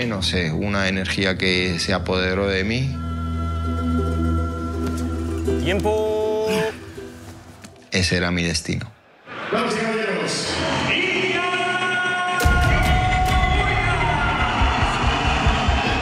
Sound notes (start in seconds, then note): 0.1 speaking in Spanish; 5.9 trainer speaking in Spanish; 9.9 cage announcer speaking in Spanish; 13.9 crowd cheering and whistling